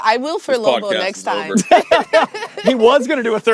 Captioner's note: laugh